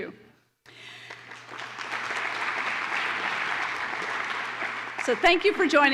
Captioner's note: applause